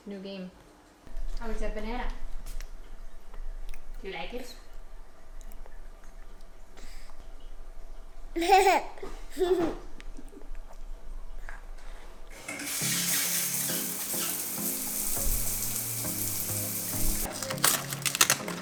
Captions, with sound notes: New game. How is that banana? Do you like it? (baby giggles) (upbeat electronic music)